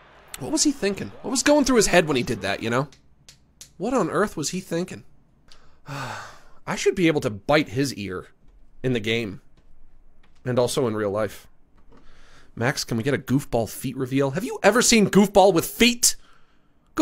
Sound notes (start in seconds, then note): 0.3 normal voice; 5.6 sighs